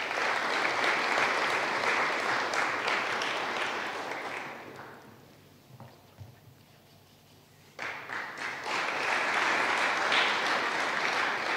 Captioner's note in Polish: oklaski